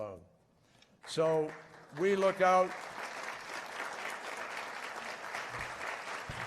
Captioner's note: applause